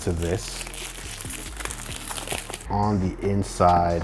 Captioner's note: paper rustling